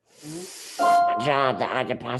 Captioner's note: computer notification sound